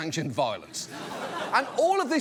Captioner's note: audience laughs